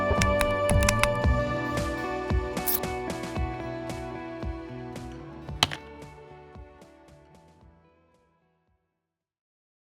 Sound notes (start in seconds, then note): 0.3 ident clicks; 5.4 click